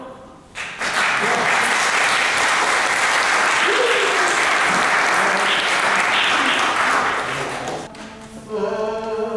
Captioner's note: applause